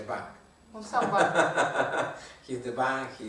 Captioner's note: hahaha